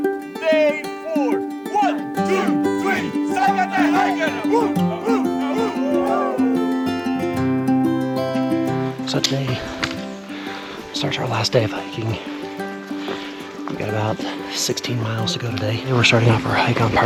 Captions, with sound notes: And day four. One, two, three, salkantay hikers! (yelling) So today starts our last day of hiking. We got about 16 miles to go today. We're starting off our hike on